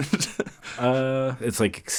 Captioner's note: laughs